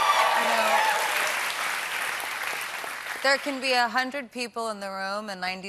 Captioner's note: cheers and applause